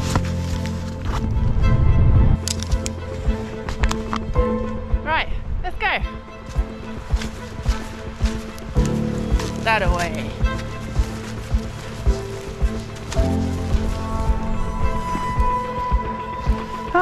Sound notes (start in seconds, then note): 0.1 lovely and slightly tense music; 6.5 sloppy footsteps; 10.9 lovely and slightly tense music